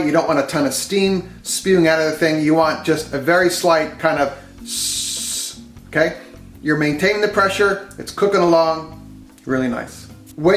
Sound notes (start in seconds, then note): 4.6 hisses